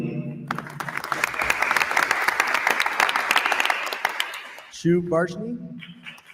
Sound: attendees applauding

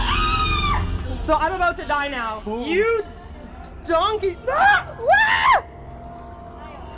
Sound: waagh

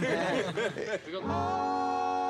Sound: laughter

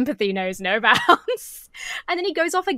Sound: laughs

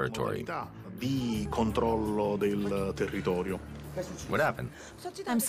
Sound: speaking in Italian

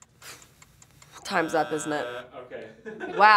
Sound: buzzer; laughs

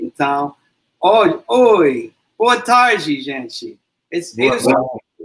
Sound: speaks portuguese

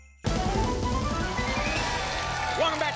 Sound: applause and cheering

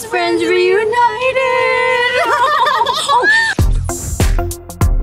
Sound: laughing

